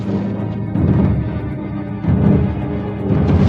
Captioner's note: booming